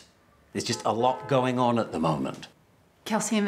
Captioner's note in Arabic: بوق السيارة